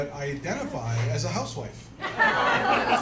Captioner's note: laughter